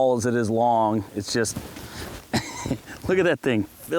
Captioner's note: laughs